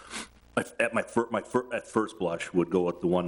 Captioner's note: stammering